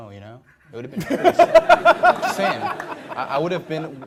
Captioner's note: laughter